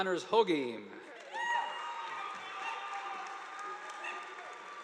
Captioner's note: audience applauding